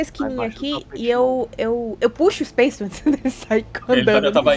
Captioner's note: laughs